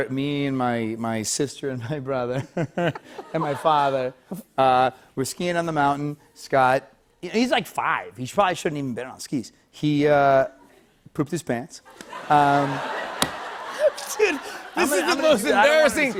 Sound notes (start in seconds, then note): 2.4 light laughter; 11.9 laughter